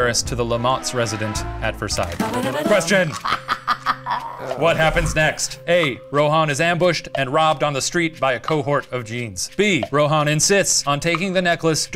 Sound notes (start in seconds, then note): 2.0 game show jingle; 3.0 laughs